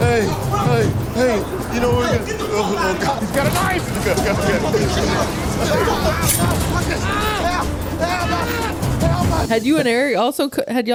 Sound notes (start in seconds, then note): 5.7 man Shouting